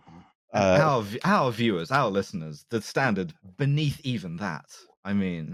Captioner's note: slightly offended tone